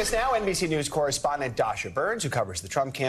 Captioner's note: cheers